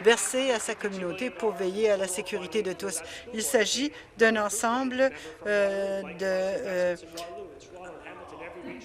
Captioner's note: applause